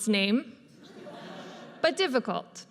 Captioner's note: audience laughs